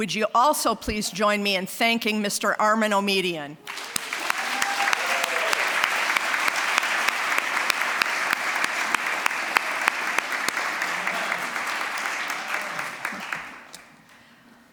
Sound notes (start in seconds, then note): 3.6 applause, cheering